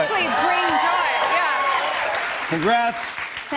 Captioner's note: cheers and applause